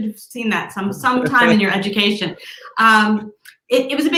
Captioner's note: laughs